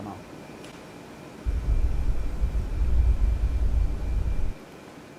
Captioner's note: air whooshing